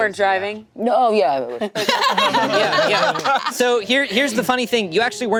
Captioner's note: group laughing